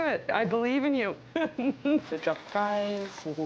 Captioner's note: laughs